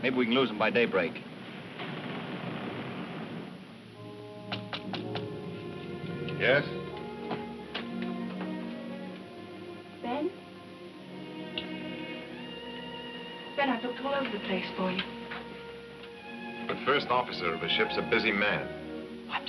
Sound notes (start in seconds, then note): 4.1 gentle music; 4.5 light knocking